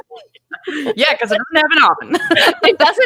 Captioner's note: both laughing; both laughing